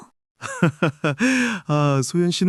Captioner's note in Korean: 웃음